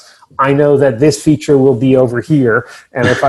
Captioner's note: chuckles